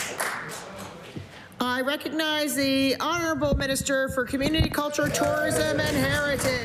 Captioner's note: applause